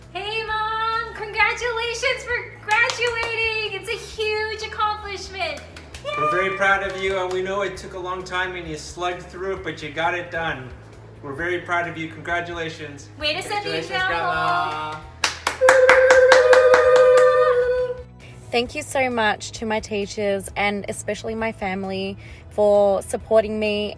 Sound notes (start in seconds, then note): 13.2 speaking in foreign language; 15.6 all cheering